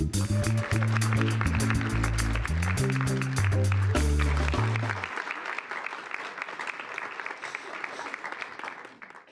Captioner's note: audience applause